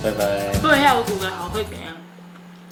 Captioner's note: hmph!